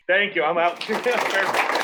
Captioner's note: applause